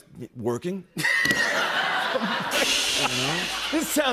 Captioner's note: laughter